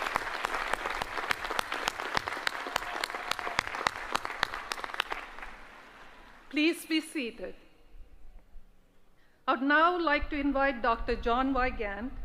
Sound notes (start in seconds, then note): 0.0 applause